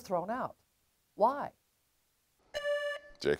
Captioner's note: buzzer beeps